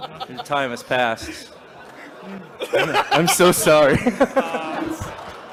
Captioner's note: more laughs as man says "I'm so sorry"